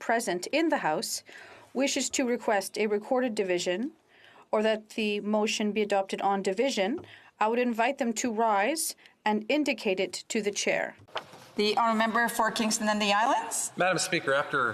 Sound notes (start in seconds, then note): 2.1 speaking French